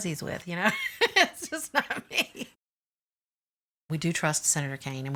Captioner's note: laughs